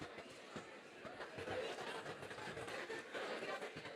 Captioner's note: crowd chattering